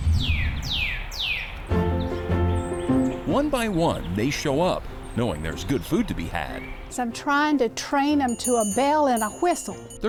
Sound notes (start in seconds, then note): 0.7 birds chirping; 1.7 upbeat music